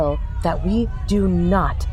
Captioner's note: ground starts shaking